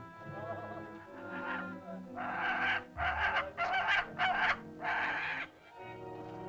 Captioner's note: soft dramatic music; vultures squawk; soft dramatic music